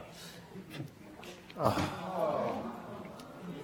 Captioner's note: sighs